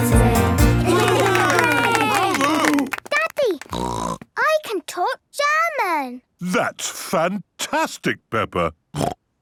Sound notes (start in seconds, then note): 0.7 cheering; 3.6 snorting; 8.4 snorting